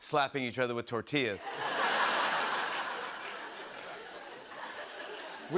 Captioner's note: laughter